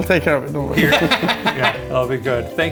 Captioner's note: laughs